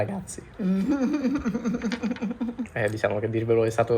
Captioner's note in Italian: risata